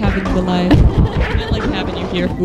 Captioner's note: laughter